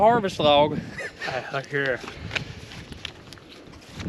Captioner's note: laughing